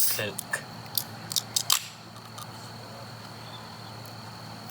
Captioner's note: can top opens